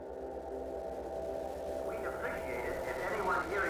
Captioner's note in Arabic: رجل يتكلم من الراديو